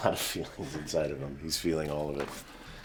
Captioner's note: chuckling